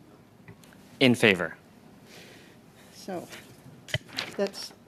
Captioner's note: speaking French